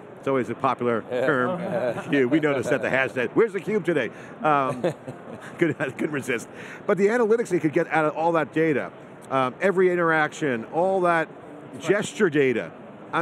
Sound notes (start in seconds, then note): 4.6 chuckling